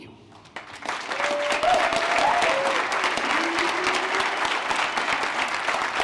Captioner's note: applause